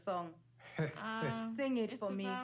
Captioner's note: chuckles